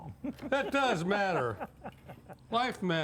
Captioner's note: laughing